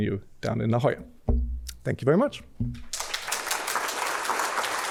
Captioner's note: applause